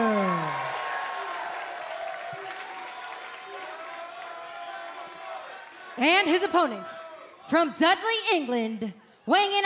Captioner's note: cheers and applause